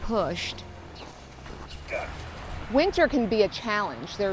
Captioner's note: grunts